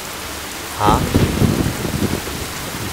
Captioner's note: Clouds thundering